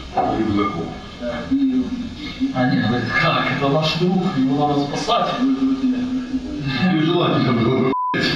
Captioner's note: laughs